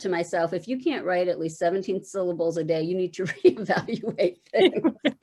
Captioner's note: laughing